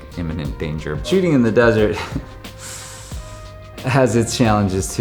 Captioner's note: chuckles